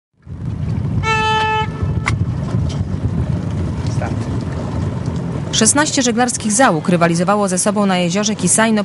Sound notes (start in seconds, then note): 1.0 siren